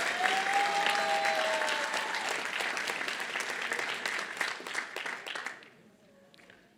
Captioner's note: applause